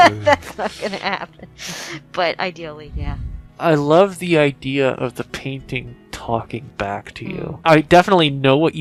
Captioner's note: laughing